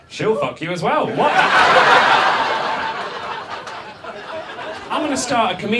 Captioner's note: audience laughs